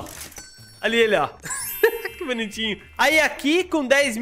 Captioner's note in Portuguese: risos